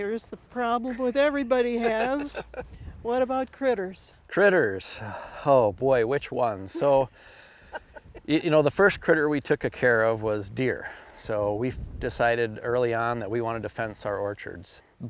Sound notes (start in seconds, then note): 1.8 laughing; 6.7 laughing